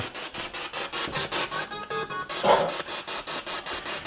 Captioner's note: noise of the spiritbox in the background